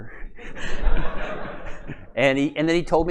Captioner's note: laughter